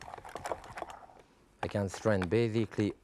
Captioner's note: strainer rattling